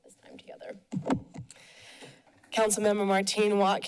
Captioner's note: mic sounds